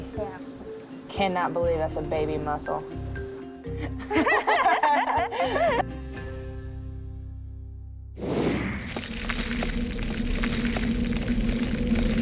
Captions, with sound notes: >> YEAH. >> CANNOT BELIEVE THAT'S A BABY MUSSEL. (LAUGHTER)